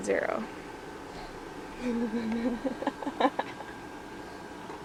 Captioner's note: chuckling